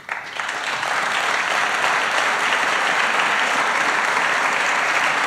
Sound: applause

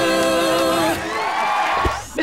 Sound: cheering

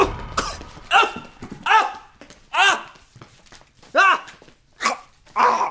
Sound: customer strains and shouts; customer chokes

